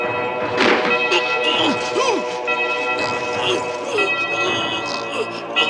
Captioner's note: threatening music; choking sounds